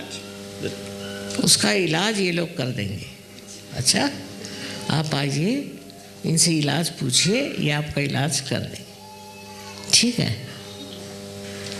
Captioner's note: hindi